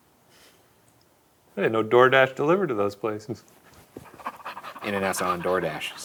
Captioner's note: laughing